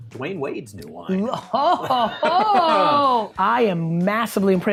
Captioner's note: laughing